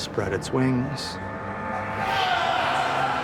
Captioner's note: screams